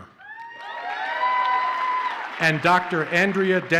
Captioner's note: audience cheers and applauds